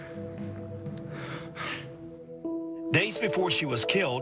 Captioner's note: breathes shakily